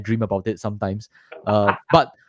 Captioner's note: laughter